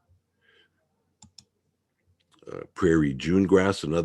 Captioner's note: mouse clicking